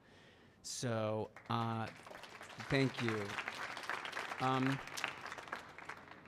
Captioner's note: audience clapping